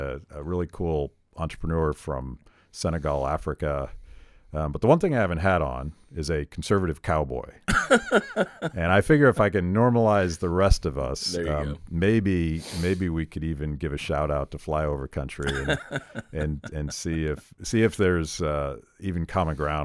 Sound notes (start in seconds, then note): 7.7 laughing